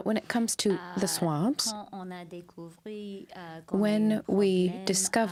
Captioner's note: speaking french